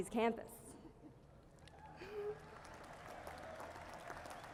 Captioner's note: applause